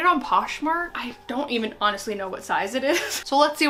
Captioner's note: chuckles